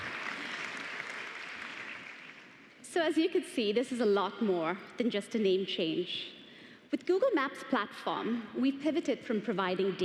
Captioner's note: applause